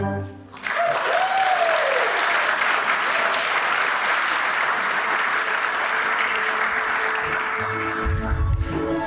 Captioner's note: applause